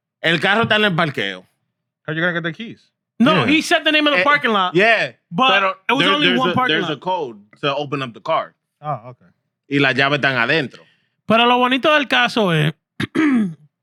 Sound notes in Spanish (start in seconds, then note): 0.1 Hablando en idioma extranjero; 10.3 Hablando en idioma extranjero